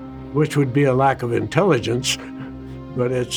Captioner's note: laughing